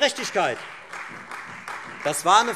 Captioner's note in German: Beifall Freie Demokraten